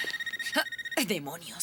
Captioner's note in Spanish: Telefone tocando